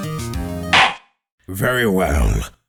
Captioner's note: gavel slams!